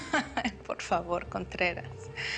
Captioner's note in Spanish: Risas